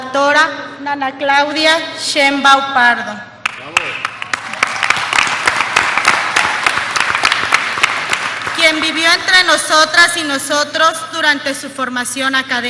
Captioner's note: applause